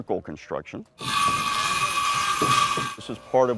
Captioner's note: construction noises